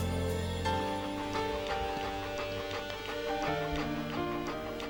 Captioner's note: dog panting